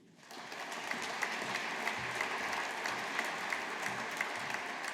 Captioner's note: audience applauding